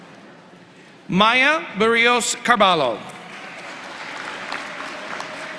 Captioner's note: applause